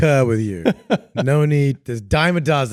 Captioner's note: laughing